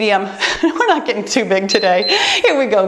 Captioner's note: laughs; timer beeps